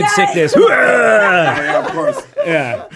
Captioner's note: hurls